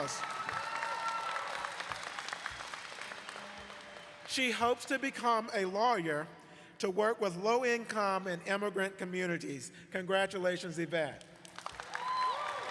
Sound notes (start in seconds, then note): 0.0 applause